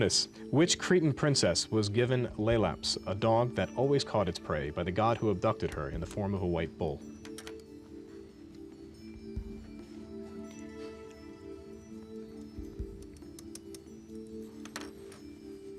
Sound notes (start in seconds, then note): 7.9 whispering